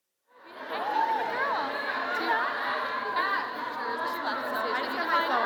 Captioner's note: crowd chattering